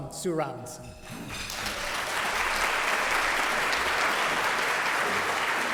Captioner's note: audience applauding